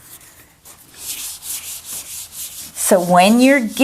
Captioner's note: eraser wiping board